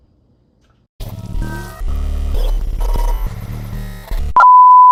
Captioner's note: glitches, technical difficulties, electrical interferences